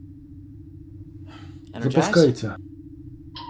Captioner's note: sigh